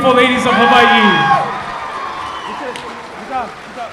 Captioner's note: applause